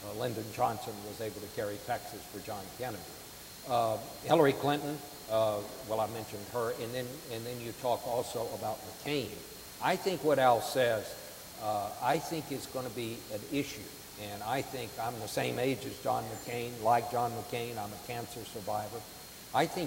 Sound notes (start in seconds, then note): none